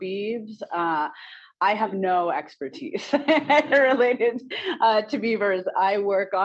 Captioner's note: laughs